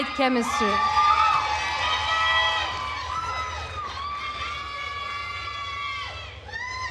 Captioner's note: attendees cheering and applauding